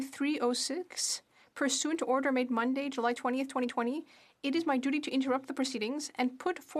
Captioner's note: speaking french